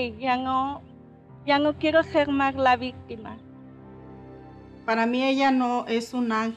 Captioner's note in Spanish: none